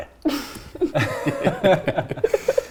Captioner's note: laughter